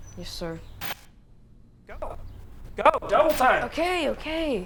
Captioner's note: buzzing